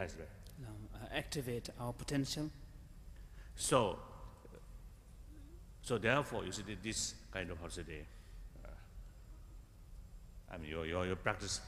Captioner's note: foreign words